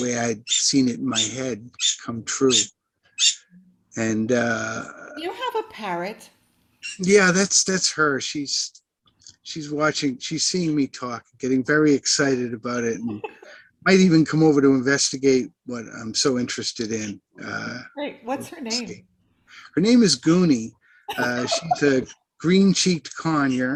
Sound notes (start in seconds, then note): 3.2 parrot continues chirping